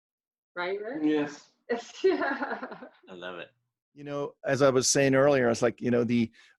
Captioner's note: laughs